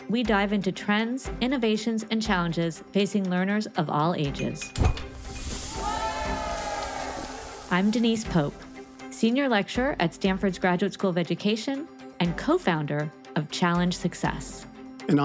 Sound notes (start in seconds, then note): 4.7 object clinking; 4.8 air whooshing; 6.7 students cheering; 7.5 bright music